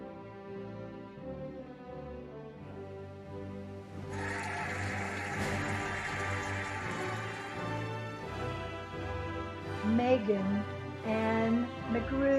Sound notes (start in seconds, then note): 4.0 cheering and applauding